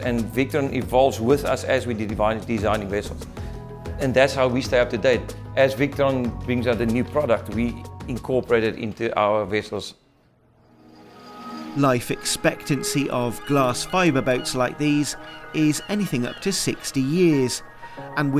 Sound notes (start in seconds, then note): 11.9 gulls squawking